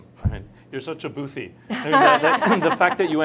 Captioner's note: both laugh